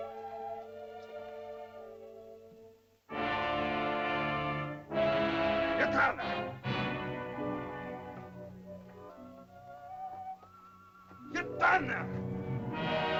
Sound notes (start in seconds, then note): 0.0 soft dramatic music; 3.2 dramatic music; 5.8 Akhoba angrily speaks in caveman language; 8.0 soft music; 11.2 Akhoba angrily speaks in caveman language